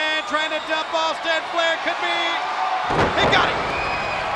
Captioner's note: body thudding